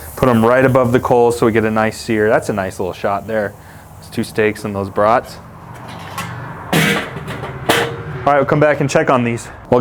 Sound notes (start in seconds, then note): 6.8 metal clanking